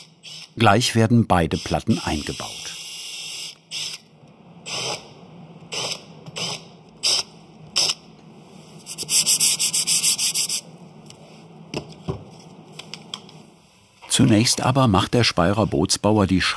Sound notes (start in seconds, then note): 8.7 rubbing noise